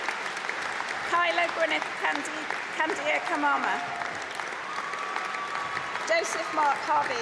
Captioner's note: applause